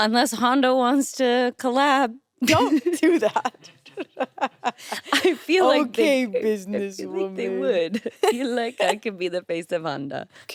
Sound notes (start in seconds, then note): 2.5 chuckles